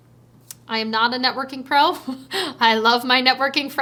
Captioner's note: chuckles